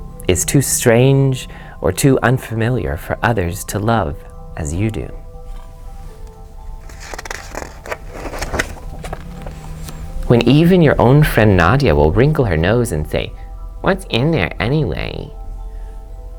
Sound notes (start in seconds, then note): 6.8 page turns